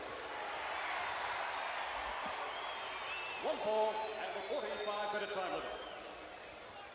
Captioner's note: applause